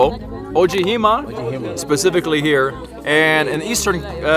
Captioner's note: speaking in a foreign langauge